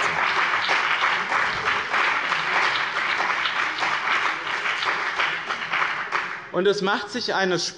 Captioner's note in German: Beifall bei dem BÜNDNIS 90/DIE GRÜNEN und bei der CDU